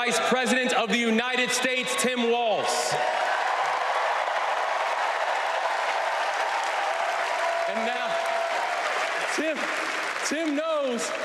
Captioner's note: crowd chanting